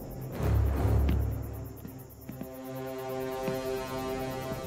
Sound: footsteps thudding

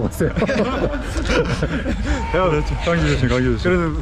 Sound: laughing

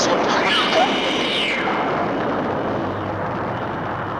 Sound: explosion

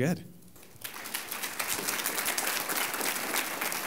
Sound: applause

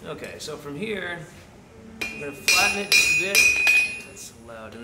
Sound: hammer strikes

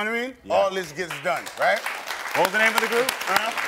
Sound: crowd clapping

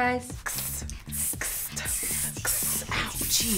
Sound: all make hissing sounds

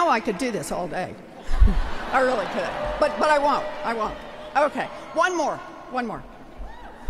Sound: applause

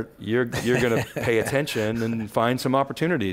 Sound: laughing

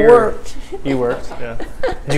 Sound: chuckles

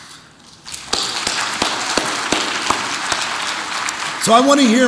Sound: audience applauds

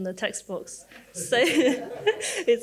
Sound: audience laughs

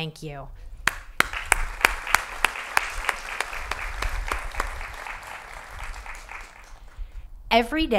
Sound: applause

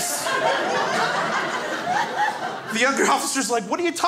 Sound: crowd laughs

